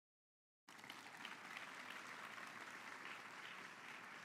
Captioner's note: audience clapping